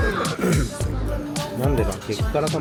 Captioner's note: clears throat